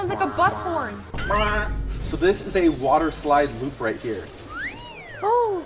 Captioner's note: imitating horn